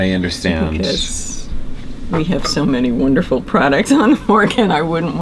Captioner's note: laughs